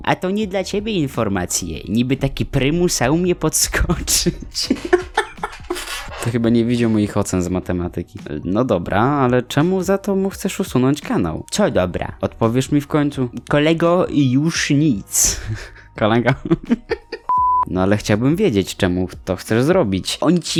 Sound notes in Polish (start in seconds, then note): 3.8 się śmieje; 15.2 się śmieje